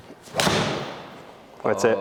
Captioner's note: golf club hits ball